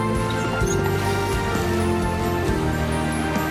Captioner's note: mongrel whimpers